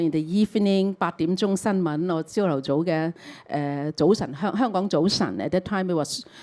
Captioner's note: Cantonese